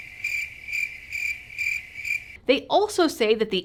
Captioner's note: crickets